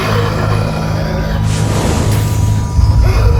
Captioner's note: loud steam sound